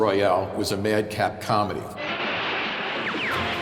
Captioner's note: echoing